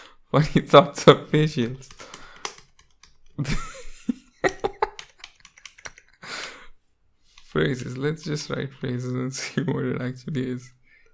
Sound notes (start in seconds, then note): 3.4 laughs